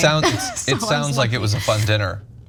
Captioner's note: laugh